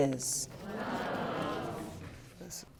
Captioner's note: audience exclaiming